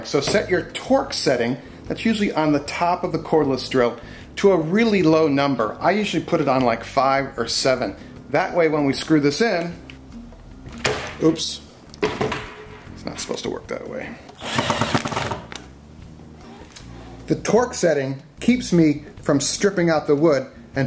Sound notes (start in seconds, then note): 14.3 drilling sound